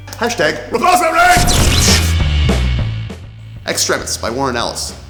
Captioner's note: explosion sounds